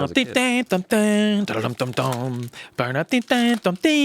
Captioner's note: vocalizes